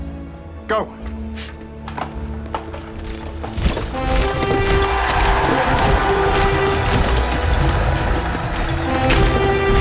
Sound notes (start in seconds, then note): 3.8 crowd cheering; 4.0 horn blowing